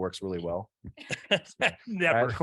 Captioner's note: panelists chuckling